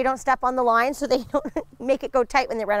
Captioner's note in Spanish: Risas